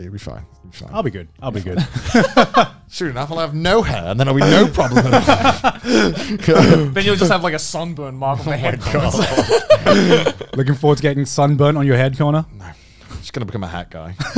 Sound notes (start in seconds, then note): 1.7 everyone laughs; 4.4 everyone laughs